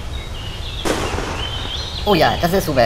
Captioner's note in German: Peng!!!